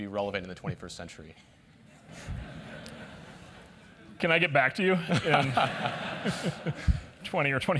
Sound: laugh

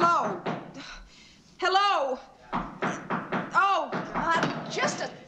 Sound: knocking Continues

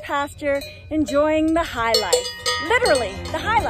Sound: cowbells clang

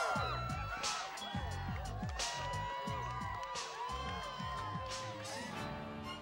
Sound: all screamgin

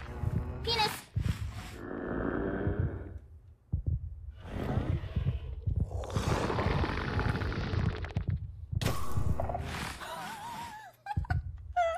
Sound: gasps; laughs

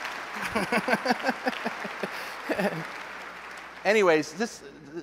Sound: laughter

